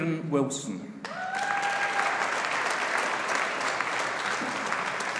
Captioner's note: audience applauding